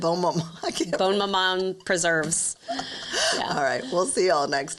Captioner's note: laughs